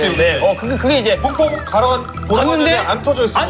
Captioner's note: mocking